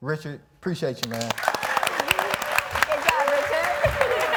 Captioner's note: audience clapping